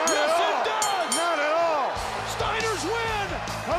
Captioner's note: bell ringing